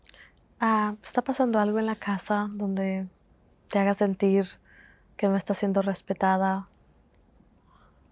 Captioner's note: Spanish